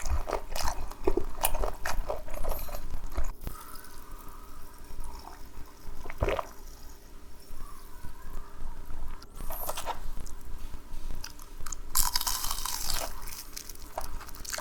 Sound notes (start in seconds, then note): 11.1 crunchy